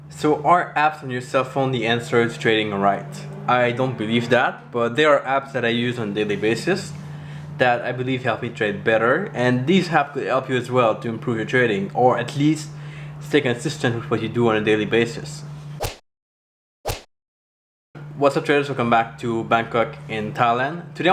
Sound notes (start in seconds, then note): 15.8 whip cracking